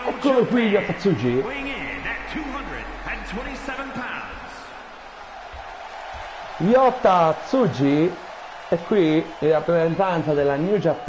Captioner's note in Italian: Applauso